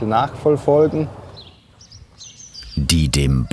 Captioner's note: birds chirping